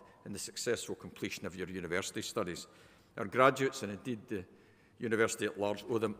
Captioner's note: none